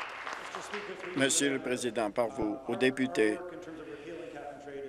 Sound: applause

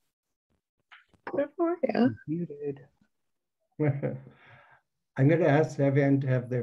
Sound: laughs

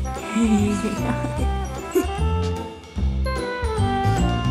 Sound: mom laughing

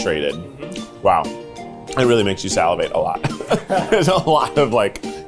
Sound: laughs

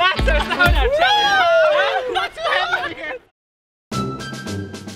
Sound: excitement and laughter; music fades

